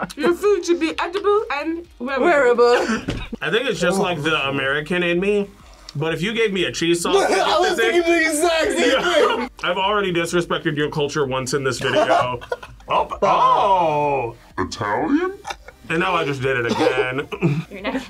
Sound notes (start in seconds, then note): 2.7 both laugh